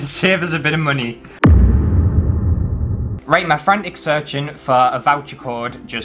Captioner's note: boom